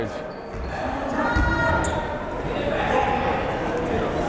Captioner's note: yelling